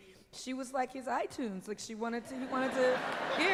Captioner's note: laughter